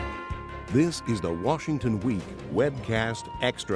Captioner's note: voiceover